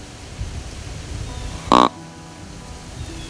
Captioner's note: sound of grunt call